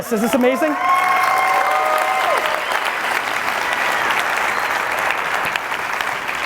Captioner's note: audience cheering and applauding loudly